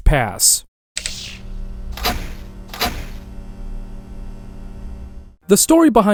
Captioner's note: electric sounds